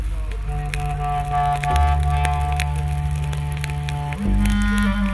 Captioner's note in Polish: trzaski płomieni